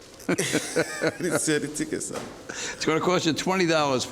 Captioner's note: laughs